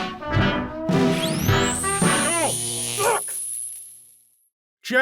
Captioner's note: jazz music; electroshock